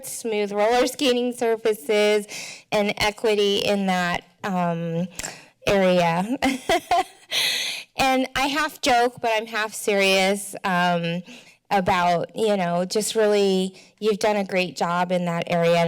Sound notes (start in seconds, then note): 6.3 laughter